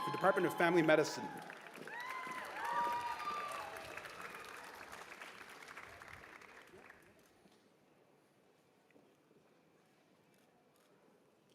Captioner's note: cheers and applause